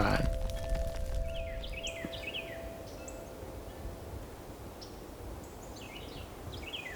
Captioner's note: fire crackling; birds chirping